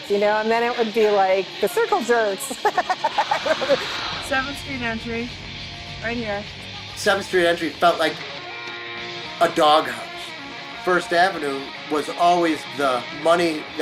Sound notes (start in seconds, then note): 2.4 laughing